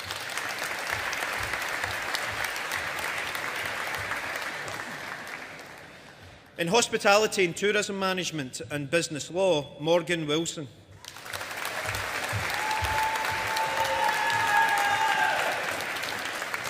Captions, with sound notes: (AUDIENCE APPLAUDING) In Hospitality and Tourism Management and Business Law, Morgan Wilson. (AUDIENCE APPLAUDING)